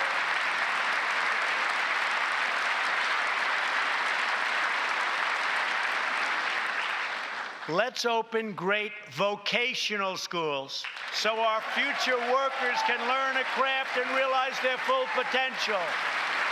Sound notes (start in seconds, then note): 4.2 applause